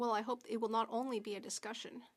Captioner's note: speaking French